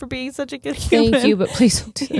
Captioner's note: chuckling